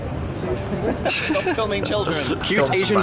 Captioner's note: laughs